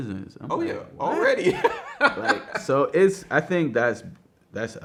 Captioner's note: laughs